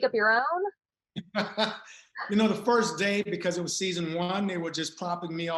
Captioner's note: laughs